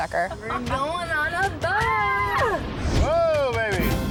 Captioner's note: screaming